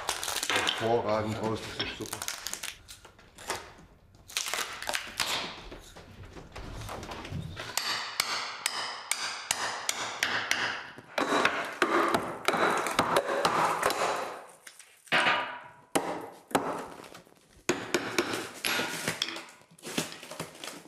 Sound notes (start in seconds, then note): 4.1 rattling, cracking; 11.1 knocking, rattling; 15.7 knocking; 17.6 hammering